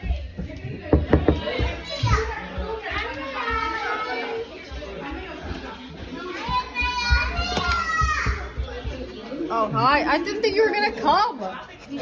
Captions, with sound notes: *knock* Oh hi- I didn't think you were gonna come!